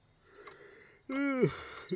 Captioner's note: yawns